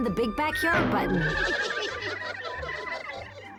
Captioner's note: snickering